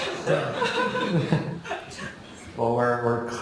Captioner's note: laughing